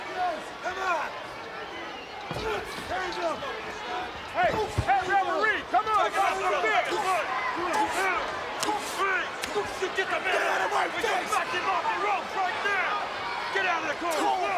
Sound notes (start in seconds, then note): 5.4 overlapping chatter; 10.8 referee yelling